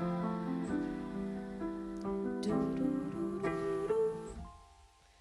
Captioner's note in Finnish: hyräilee taustamusiikin mukana